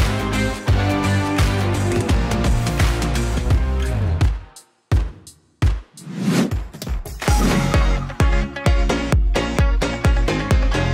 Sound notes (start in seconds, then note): 6.0 whooshing; 7.4 exciting upbeat music